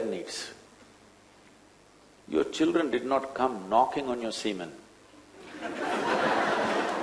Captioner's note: laughter